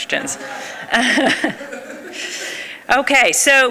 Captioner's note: laughs